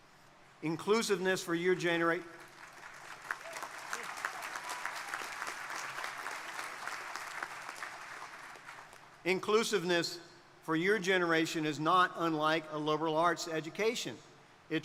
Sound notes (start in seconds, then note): 2.4 crowd applauding; 2.7 crowd members cheering